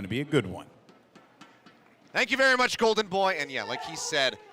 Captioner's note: cheering & applause